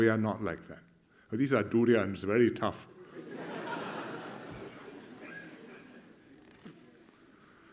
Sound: laughter

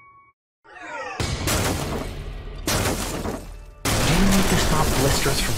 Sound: concrete shattering

